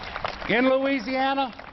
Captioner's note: applause